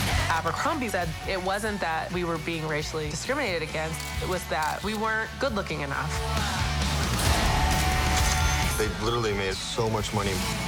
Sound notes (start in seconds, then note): 7.6 cash register chimes